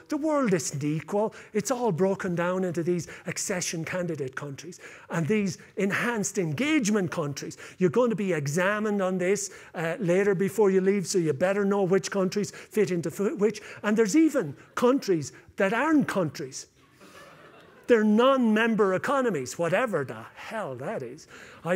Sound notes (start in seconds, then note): 16.8 laughter